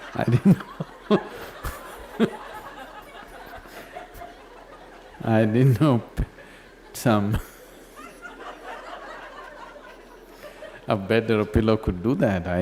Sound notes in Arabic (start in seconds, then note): 4.1 يضحك; 8.8 ضحكًا أكثر